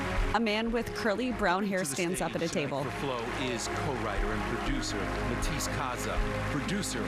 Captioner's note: applause